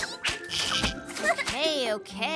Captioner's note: laughs